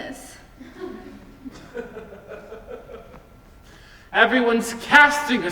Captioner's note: audience laughs softly